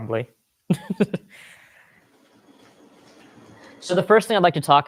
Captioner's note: laughs